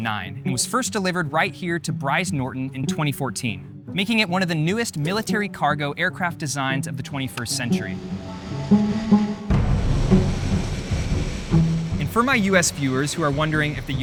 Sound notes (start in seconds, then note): 7.2 plane engine rumbling; 7.3 dramatic music